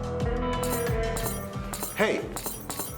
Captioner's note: spurs Clacking